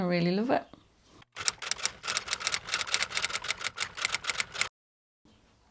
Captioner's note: typewriter clicking